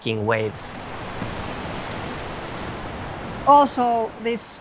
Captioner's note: waves crashing